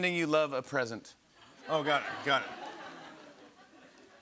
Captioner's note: laughter